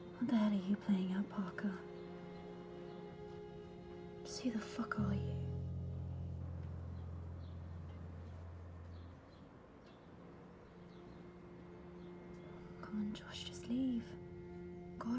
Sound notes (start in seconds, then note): 7.1 birds chirping